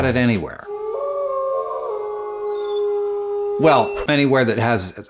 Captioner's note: howling